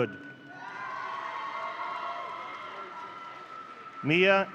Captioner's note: audience cheering